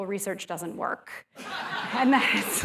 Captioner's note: laughter